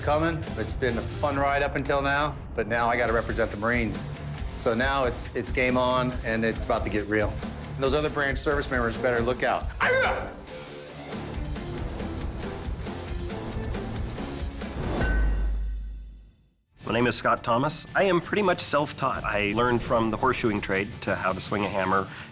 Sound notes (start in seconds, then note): 9.6 yelling